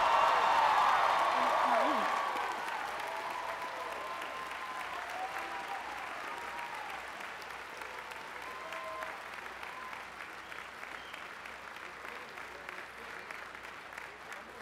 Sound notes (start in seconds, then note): 2.1 applause